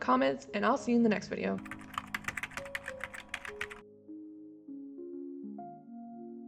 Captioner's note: keyboard clicking